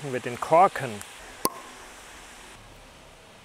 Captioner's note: popping, hissing